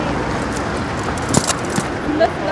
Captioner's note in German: Rumpeln